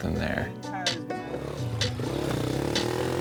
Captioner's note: engine revving